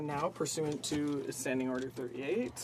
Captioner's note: speaking French